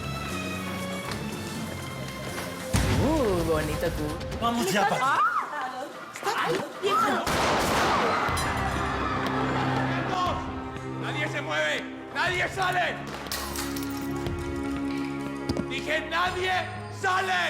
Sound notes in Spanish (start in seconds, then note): 7.2 Disparos; 7.8 Griterío